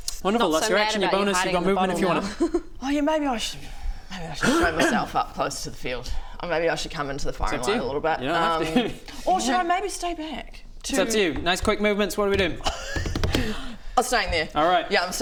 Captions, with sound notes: - wonderful, that's your action, your bonus - Not so mad about you - you've got movement if you want it - hiding in the bottle now oh yeah maybe I should maybe I should show myself up closer to the field maybe I should come into the firing line - a little bit - It's up to you you don't have to or should I maybe stay back? it's up to you, nice quick movements, what are we doing? *impatient table drums* I'm staying there